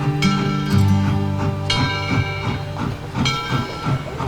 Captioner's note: bell tolling